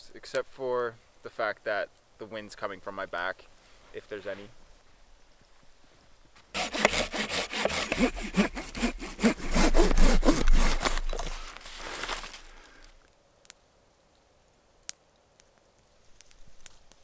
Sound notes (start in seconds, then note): 6.5 saw rasping